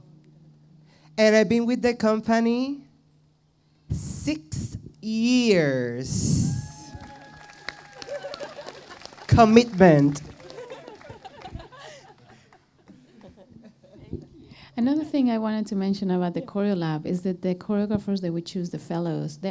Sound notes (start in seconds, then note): 6.6 audience cheers and applauds; 10.4 laughter